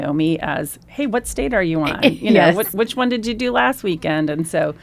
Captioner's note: laughs